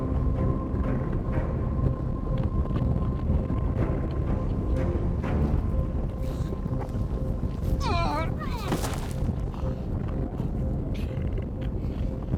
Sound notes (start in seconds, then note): 0.1 suspenseful music; 7.8 Larry groaning; 9.1 body thuds